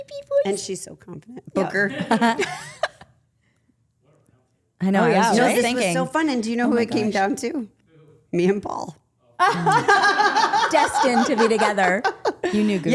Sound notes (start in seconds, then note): 9.4 group laughing